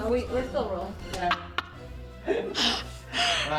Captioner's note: laughs